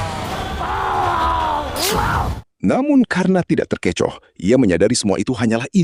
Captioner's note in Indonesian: berteriak